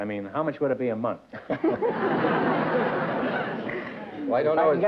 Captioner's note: laughter